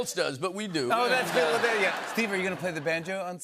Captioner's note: laughter